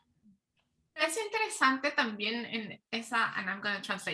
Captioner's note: speaking Spanish